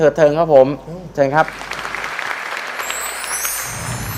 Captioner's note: clapping